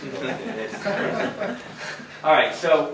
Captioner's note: laughter